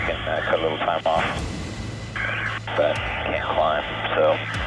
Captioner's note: radio chatter